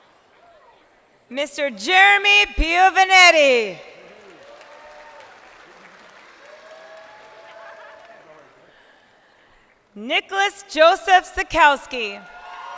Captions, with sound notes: (crowd applauding) >>Mr. Jeremy Piovanetti. (crowd applauding)